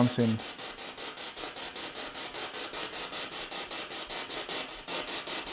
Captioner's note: noise of the spiritbox in the background